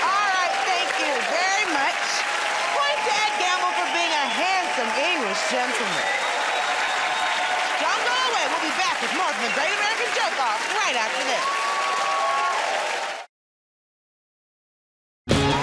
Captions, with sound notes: -All right, thank you very much. Points to Ed Gamble for being a handsome English gentleman. [ Cheers and applause ] Don't go away, we'll be right back with more of "The Great American Joke Off" right after this. [ Cheers and applause ]